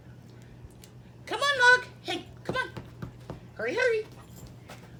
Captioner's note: pat pat